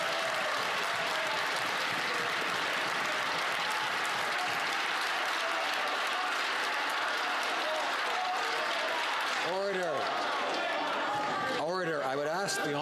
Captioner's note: some Applause